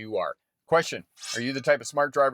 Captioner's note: metal clinks